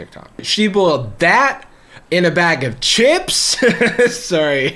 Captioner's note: laughs